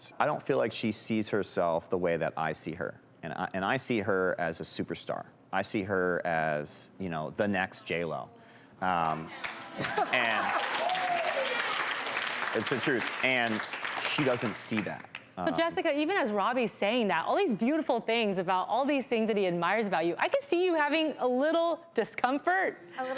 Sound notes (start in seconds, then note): 9.3 crowed clapping and cheering